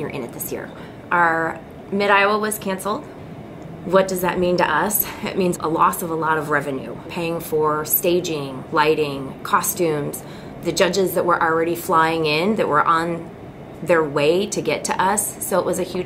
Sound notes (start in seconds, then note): none